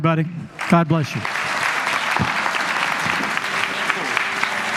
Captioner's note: applause